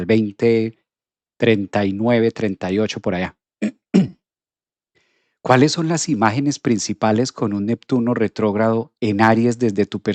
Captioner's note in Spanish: carraspeo